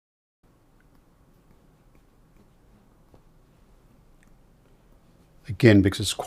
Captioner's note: silence